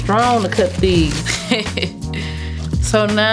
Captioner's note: laughing